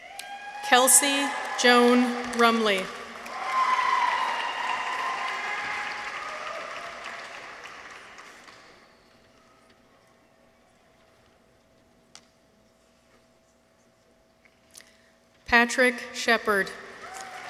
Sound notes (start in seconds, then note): 3.4 audience applauds; 3.4 people cheer